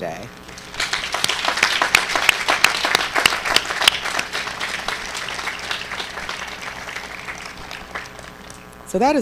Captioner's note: applause